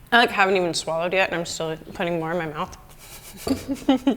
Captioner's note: chuckles